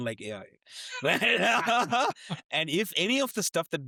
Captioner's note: laughing